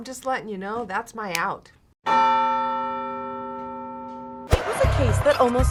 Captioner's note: bell tolls; snaps